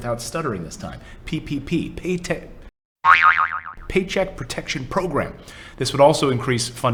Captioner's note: boing